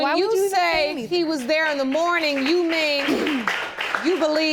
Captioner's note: applause